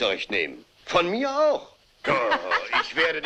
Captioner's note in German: lacht